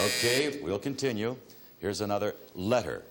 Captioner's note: timer buzzing